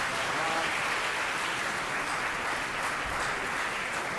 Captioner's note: applause